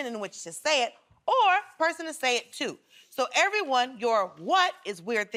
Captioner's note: none